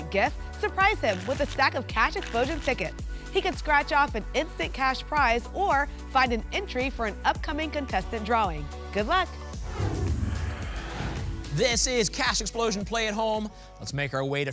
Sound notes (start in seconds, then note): 9.5 whoosh